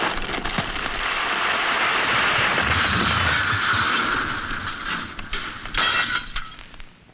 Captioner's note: tree cracking; crashing; glass breaking